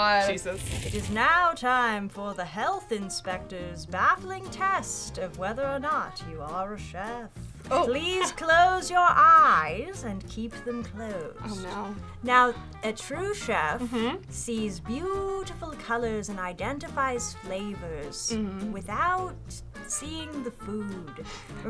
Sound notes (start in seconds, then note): 0.4 fire crackling; 7.8 laughs